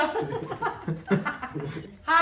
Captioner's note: laughing